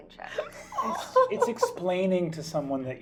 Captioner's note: laughing